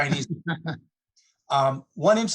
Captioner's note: laughs